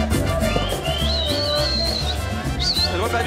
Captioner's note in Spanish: Silbidos